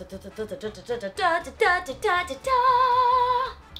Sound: humming

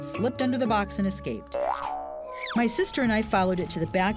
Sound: boinging

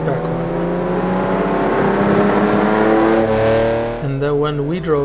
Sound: engine revs

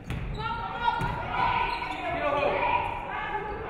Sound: players shouting

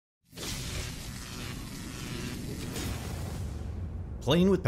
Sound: electricity Buzzing

